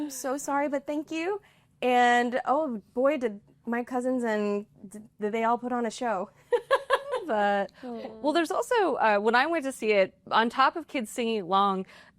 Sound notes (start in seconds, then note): 6.4 laughter